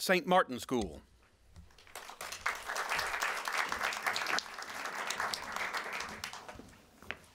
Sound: applause

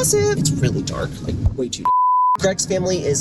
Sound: high pitched beep

